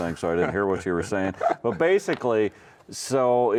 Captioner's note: chuckling